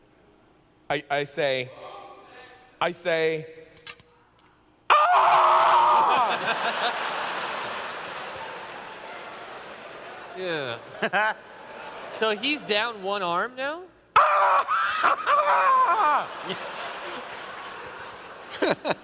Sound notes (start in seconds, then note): 4.9 screams; 6.1 laughter; 14.1 screams; 15.9 laughter